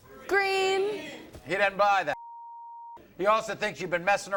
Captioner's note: beep